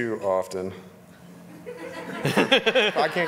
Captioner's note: audience laughing